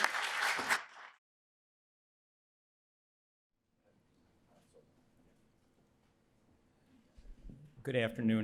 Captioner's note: applause